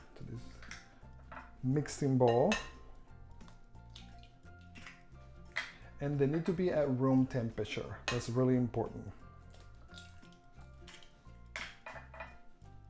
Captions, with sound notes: into this mixing bowl. (cracking egg) And they need to be at room temperature, that's really important. (cracking eggs)